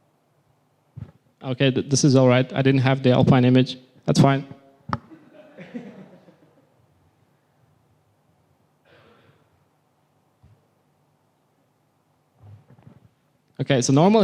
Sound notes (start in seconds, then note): 5.1 soft laughter